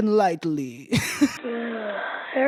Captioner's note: sighs